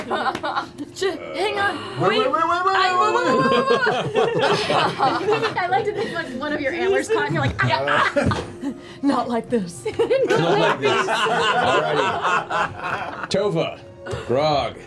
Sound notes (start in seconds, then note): 0.2 laughter; 7.8 yelps; 9.8 laughter